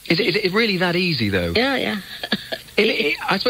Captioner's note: soft laugh